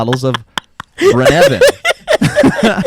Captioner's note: laughs